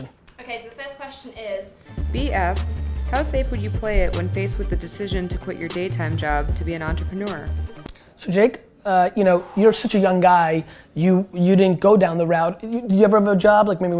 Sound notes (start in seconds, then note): 1.8 voiceover